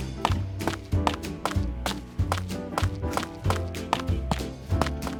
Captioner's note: footsteps